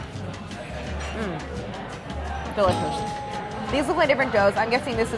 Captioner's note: bell dinging